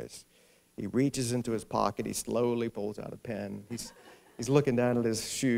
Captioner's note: laughter